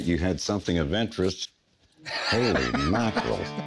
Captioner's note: Rick laughing